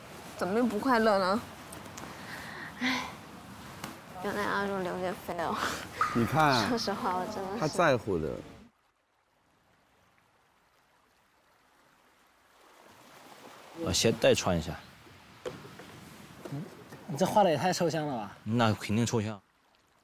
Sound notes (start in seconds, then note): 2.2 sigh